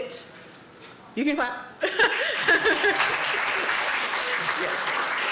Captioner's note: laughs; applause